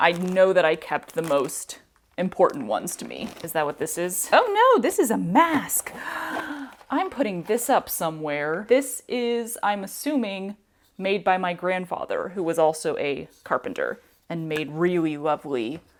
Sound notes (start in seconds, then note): 5.9 gasp